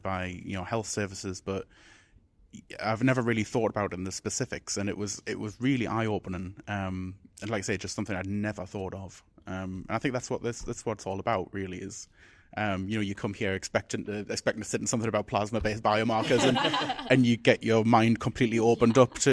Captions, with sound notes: by health services, but I've never really thought about in the specifics, and it was really eyeopening. And like I said, it's just something I'd never thought of. And I think that's what it's all about really is you come here expecting to say something about plasma-based biomarkers (group laughs) and you get your mind completely opened up